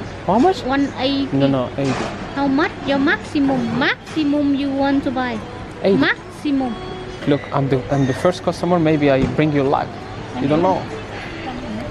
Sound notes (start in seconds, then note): none